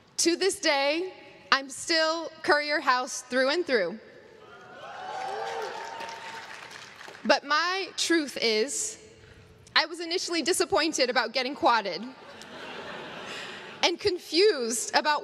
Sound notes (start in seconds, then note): 4.4 crowd cheers